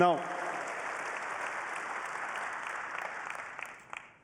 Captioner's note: applause